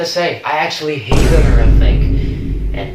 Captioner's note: boom